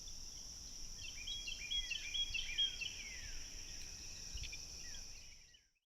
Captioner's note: insects chirping; birds tweeting